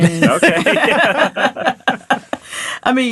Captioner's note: all laughing